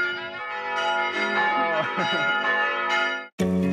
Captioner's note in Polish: dzwony